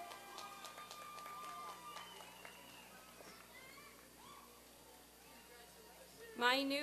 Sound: applause and cheering

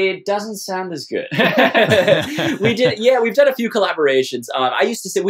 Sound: laughter

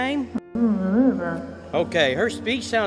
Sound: grandma gibbers

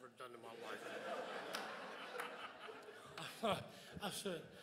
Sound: crowd laughs

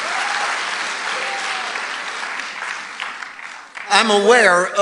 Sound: congregation applauding

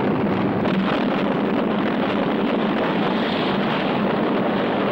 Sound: explosion booming

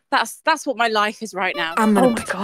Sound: clown horn

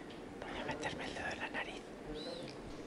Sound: whispering

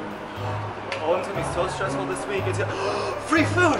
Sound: gasp

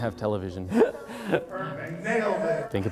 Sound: laugh

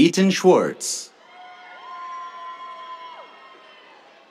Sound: cheers

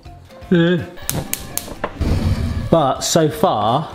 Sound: stove clicking on

